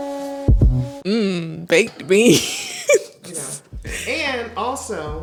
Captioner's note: laughs